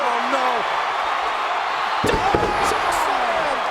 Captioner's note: crowd cheering; body thudding